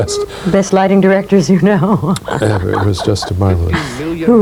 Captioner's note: laughs